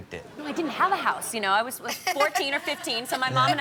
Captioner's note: Chanel laughs